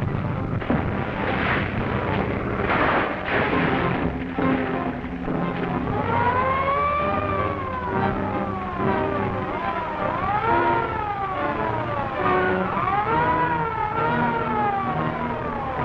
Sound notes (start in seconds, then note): 0.8 splashing; 2.8 crashing; 6.0 siren blaring; 11.0 dramatic orchestral music